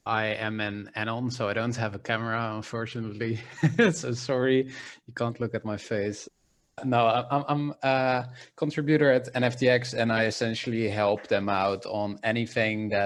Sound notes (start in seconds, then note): 3.4 evil laughter